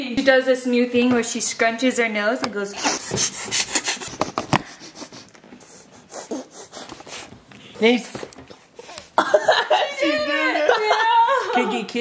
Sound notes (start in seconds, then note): 2.8 snorts; 3.3 everyone makes nose noises; 8.4 sniffles; 9.2 dad laughs